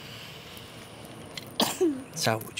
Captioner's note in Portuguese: espirro